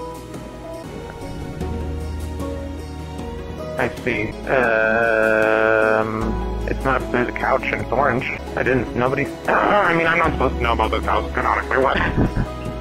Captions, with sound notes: I see. Umm... It's not... There's a couch! And it's orange. I didn't... Nobody- [COUGHS] I mean- I'm not supposed to know about this house canonically! What? [laughter]